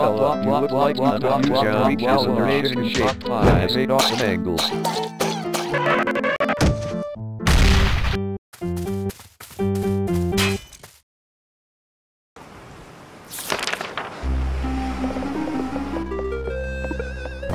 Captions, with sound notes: Hey lil fella Bla bla you look like you could use a Marie Calander Chicken Pot Pie. Bla bla bla you look like you could use a Marie Calander Chicken Pot Pie. Bla bla bla bla you look like you could use a Marie Calander Chicken Pot Pie. Bla bla bla bla bla On Octagon you look like you could use a Marie Calander Chicken Pot Pie. Bla bla bla bla bla On Octagon is an amazing shape you look like you could use a Marie Calander Chicken Pot Pie. On Octagon is an amazing shape that has 8 awesome angles. [Choking] And this, kids, is why you should learn CPR.